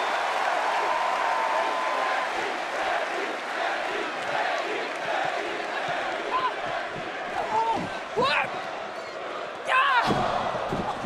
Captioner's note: cheers and applause